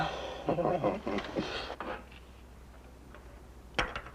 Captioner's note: both laughing